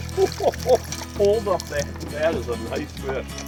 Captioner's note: laughing